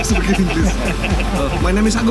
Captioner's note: speaking in foreign language; laughing